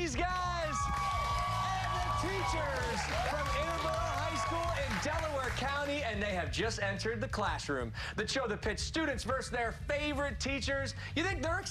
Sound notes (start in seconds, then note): 4.1 cheers and applause